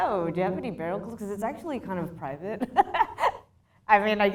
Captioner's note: laughs